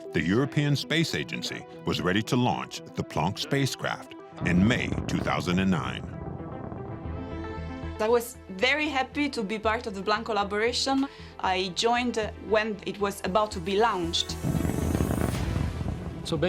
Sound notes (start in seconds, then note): 4.4 rocket engine rumbling; 5.9 tense music; 14.7 tense music